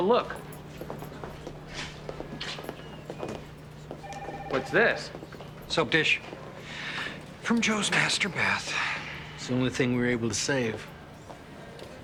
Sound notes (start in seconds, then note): none